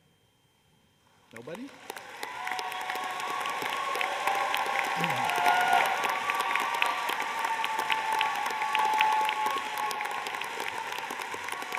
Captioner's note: applause